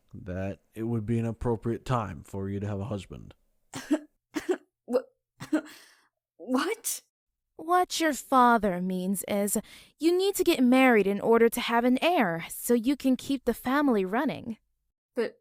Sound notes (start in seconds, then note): 6.6 chokes